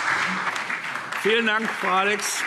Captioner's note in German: Beifall SPD